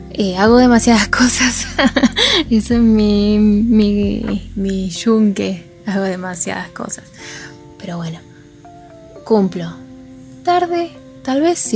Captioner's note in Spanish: risas